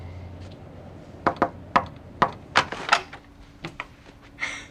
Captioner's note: knocking on the door